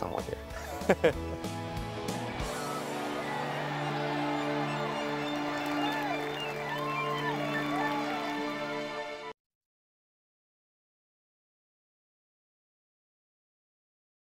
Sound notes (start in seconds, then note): 0.3 laughs; 1.7 upbeat music; 3.8 cheering and claps at the background